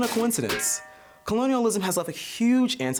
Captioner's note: crown crash